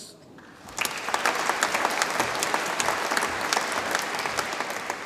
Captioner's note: audience applauds